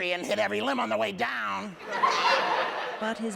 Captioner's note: laughter